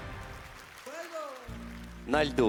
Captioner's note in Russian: аплодисменты